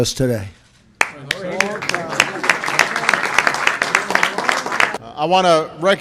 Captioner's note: applause